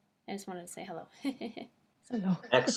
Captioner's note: chuckles